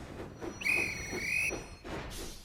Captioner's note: guard whistles